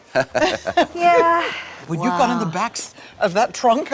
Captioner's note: laughter